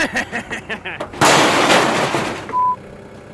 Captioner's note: laughing; crash